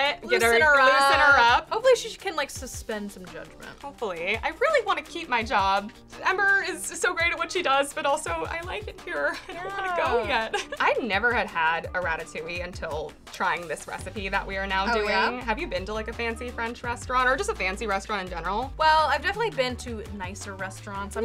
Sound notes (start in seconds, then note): 9.1 laughs